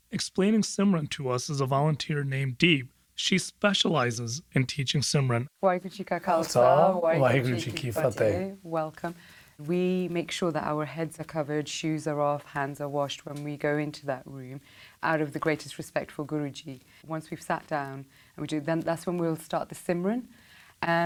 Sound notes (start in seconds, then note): 5.7 speaking foreign language